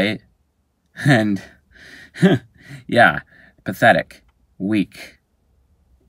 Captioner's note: chuckling